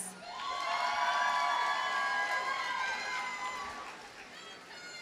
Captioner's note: audience cheers and applauds